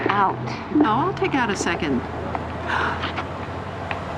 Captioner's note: gasps